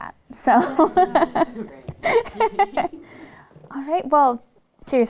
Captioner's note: laughing lightly